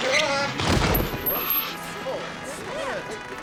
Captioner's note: people chattering